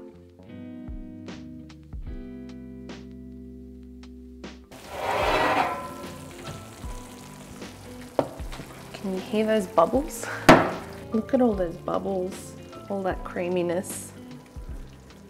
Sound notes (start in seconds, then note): 0.2 soft music; 4.8 dish clanks; 7.5 food sizzles